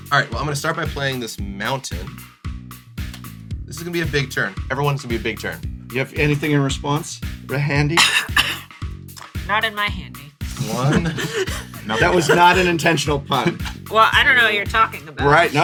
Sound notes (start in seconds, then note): 7.9 fake coughs; 10.6 laughter; 11.2 counting